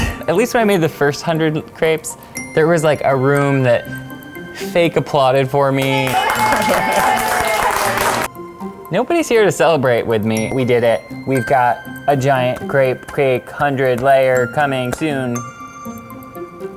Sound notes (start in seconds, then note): 5.8 applause